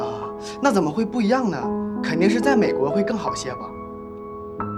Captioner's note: in mandarin